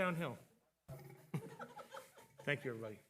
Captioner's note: attendees laughing